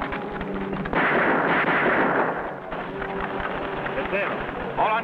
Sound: gun fires

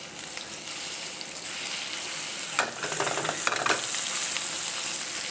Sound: meat sizzling

